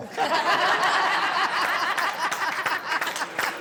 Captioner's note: guests laughing